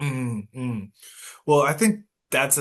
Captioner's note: nods and hums in agreement